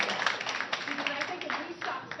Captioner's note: applause